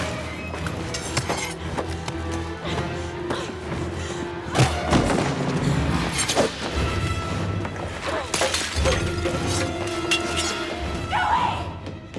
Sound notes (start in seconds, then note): 4.4 thudding